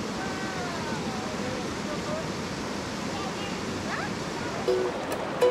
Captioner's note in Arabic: يتدفق الماء بصوت عالٍ